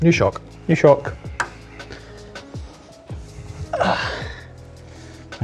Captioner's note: grunting